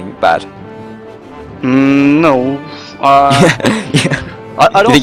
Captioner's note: laughs